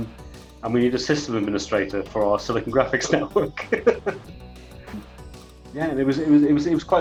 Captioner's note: laughs